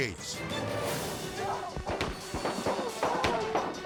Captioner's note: suspenseful music; shots firing